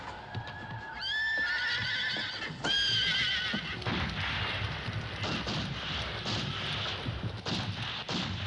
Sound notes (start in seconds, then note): 3.8 guns firing